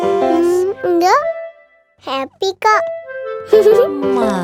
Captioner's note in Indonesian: tertawa